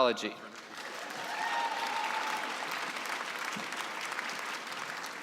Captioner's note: cheering and applause